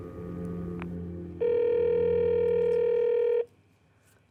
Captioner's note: line ringing